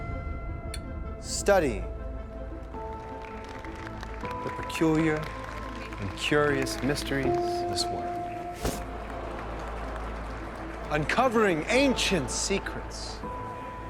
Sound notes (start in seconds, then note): 2.3 audience applauding